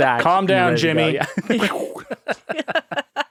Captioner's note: all laughing